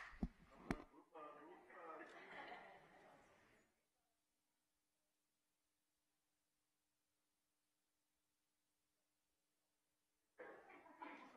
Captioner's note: applause